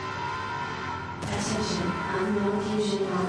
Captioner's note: explosion